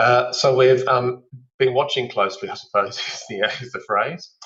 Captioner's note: laughs